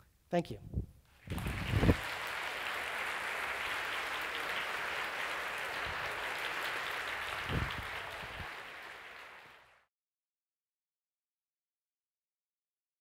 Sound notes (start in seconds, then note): 1.2 audience applauds